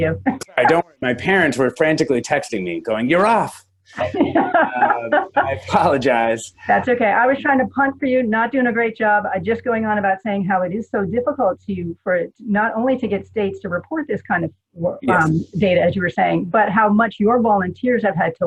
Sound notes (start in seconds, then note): 4.0 laughter